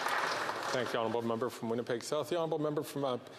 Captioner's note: applause